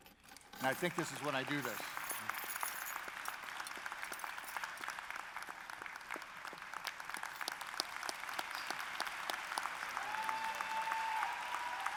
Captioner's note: applause